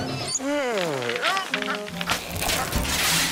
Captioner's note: groaning